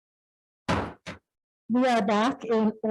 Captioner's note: gavel bangs